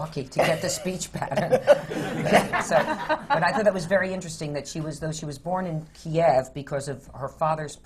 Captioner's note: laughter